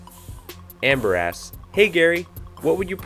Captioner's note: voiceover